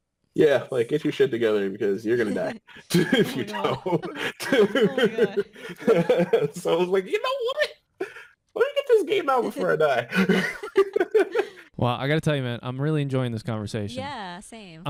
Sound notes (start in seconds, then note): 2.1 laughing